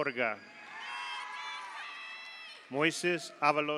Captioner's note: audience cheers; audience applauds